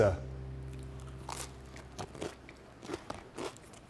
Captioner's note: pizza crunches